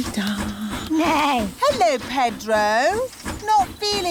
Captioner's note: neighs